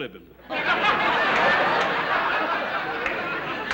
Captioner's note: laughter